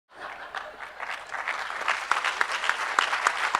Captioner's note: crowd applause